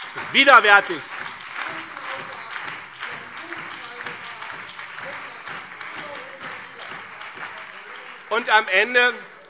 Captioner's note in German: Beifall BÜNDNIS 90/DIE GRÜNEN, CDU und vereinzelt DIE LINKE